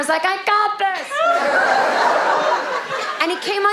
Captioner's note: audience laughing